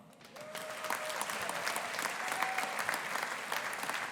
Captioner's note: audience applauding